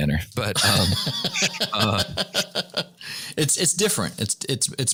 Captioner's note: laughter